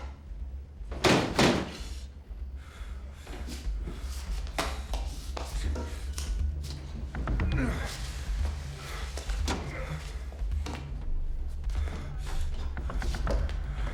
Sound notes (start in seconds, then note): 7.2 Bill grunts; 10.7 tense music